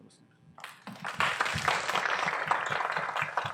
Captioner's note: applause